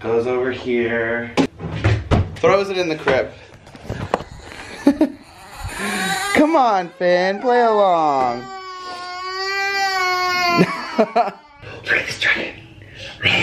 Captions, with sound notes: goes over here, throws it in the crib. (laughing) (crying) Come on Finn, play along. (crying) Dragon started.